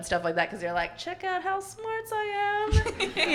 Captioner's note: chuckles; everyone laughing